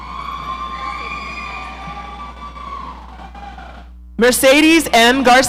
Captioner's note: audience cheering